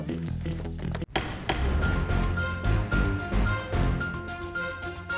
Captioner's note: gavel banging; dramatic music